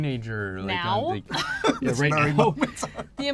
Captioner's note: laughs